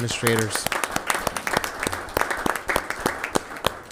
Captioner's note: members applauds